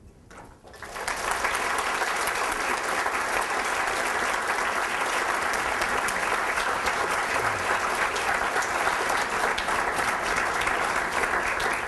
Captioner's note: applause